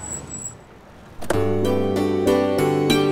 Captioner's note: Car halt; Car door opens